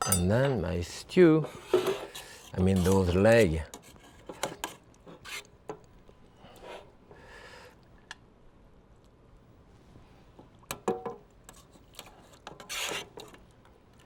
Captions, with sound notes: And then, my stew, I mean, those leg. (pan scraping)